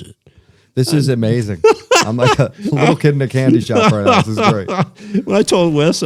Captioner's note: laughter